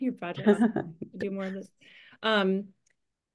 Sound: laugh

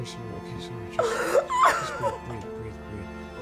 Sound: Efosa Sobbing; sad Music

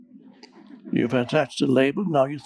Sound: audience chuckling

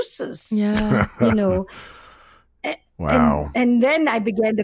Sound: laughs

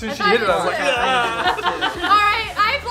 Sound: laughing; yelling

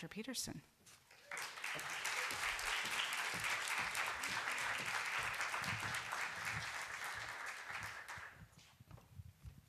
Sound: applause

